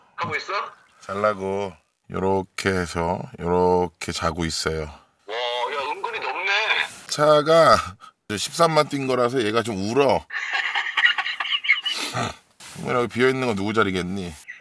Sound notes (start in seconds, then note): 10.2 laughing